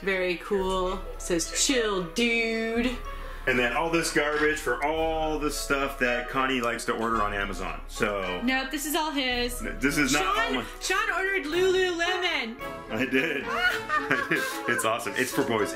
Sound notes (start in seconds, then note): 12.9 laughing